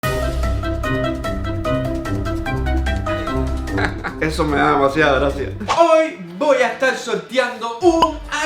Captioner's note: laught